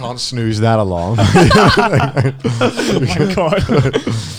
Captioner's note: laughing